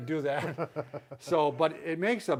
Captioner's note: both laughing